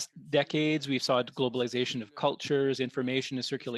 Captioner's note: speaking French